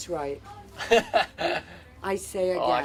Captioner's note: laughing